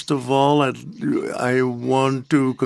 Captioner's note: speaking French